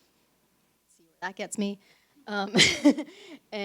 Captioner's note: chuckles